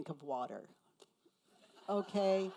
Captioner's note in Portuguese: risos da plateia